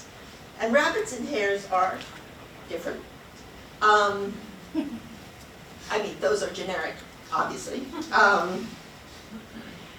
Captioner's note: laughs